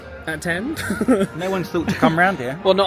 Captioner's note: laughs